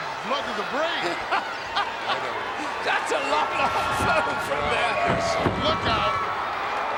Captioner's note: laugh